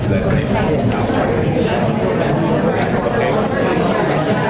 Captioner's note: class chattering